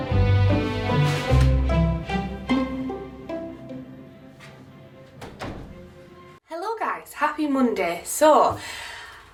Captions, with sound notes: (door closing) - Hello guys. Happy Monday. So